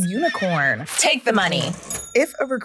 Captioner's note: cash register dings